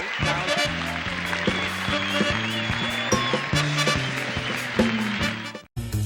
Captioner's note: applause